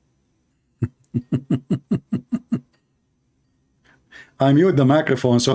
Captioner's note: Ketawa